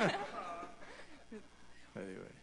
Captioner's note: laughter